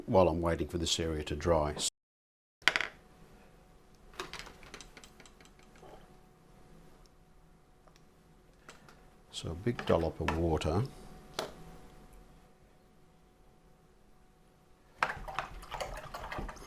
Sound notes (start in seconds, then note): 4.0 silence; 11.6 silence